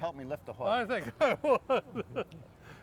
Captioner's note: laughs